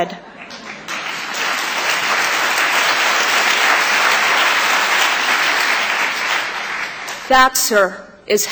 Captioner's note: applause